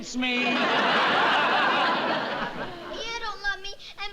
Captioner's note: laughter